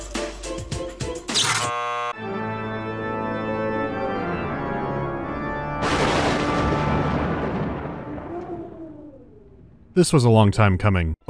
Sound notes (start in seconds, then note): 1.3 chirp, buzz; 1.7 organ music; 5.8 crack of thunder